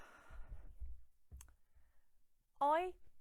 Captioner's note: sighing